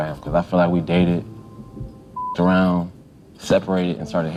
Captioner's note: beep